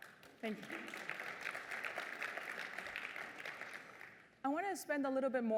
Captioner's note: applause